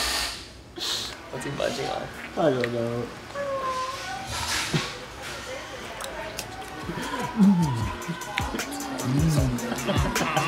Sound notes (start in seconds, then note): 5.8 chewing noise